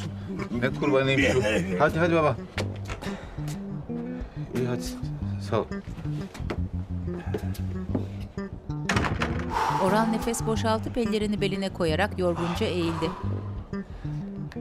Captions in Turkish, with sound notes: Ne kurbanıymış o? Hadi, hadi baba. İyi hadi sağ olun. (Kapı kapanma sesi) Uff! (Nefes sesi)